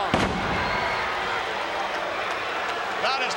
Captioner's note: body thuds